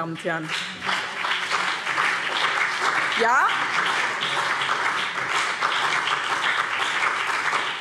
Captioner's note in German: Beifall BÜNDNIS 90/DIE GRÜNEN und vereinzelt CDU